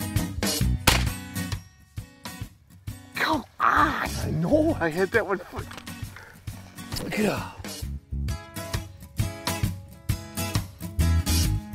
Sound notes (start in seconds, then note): 0.8 gun firing; 6.0 groans